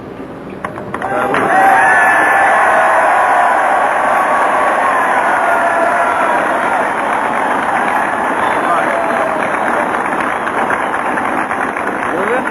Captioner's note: cheering & Applause